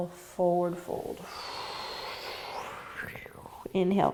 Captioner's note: exhaling